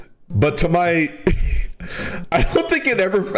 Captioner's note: laughs